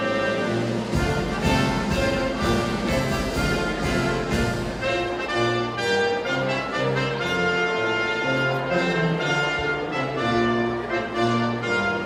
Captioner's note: applause and music